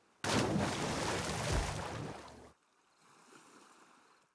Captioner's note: water splashing